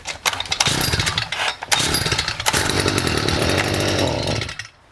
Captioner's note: engine rumbling